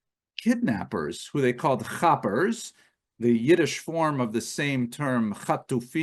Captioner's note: Hebrew